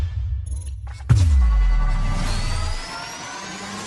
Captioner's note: electronic whirring; boom; electronic whirring